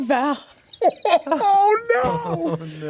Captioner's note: laughing